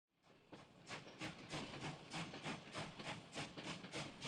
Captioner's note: train chugging